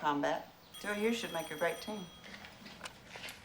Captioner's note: phone Ringing